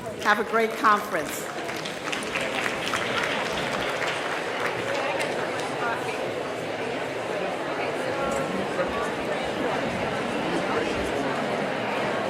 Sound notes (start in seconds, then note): 2.0 audience claps; 5.1 people chattering